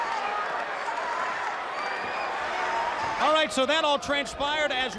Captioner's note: crowd chatter